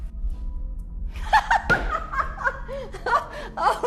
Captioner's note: laughs